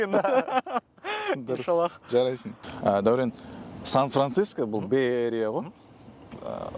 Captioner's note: laughing; laughing